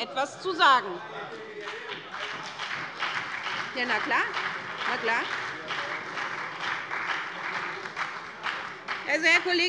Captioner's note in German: Beifall bei der SPD und der FDP - Zurufe von der CDU